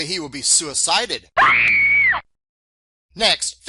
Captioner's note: sound of Woman Scream